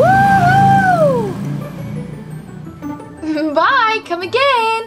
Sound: boat engine humming

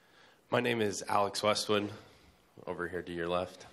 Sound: voiceover

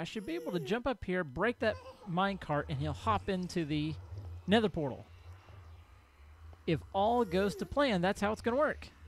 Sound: ghast squalls

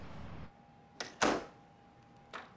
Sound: door clicks

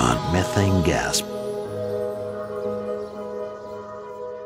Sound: chimes

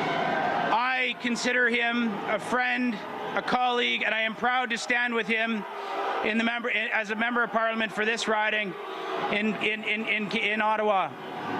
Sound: crowd chanting "boo"

